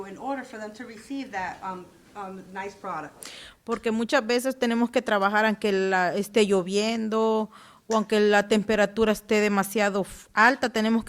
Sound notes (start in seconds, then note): 3.7 speaking Spanish